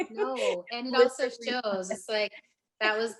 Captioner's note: both laughing